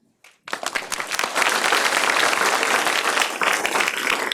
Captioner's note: clapping